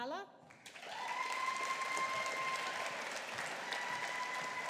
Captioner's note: audience applauding